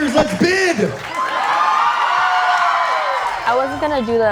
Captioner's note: cheering